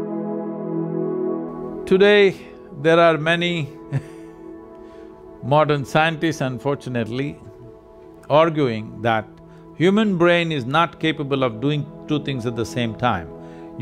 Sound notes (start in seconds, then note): 3.8 laughs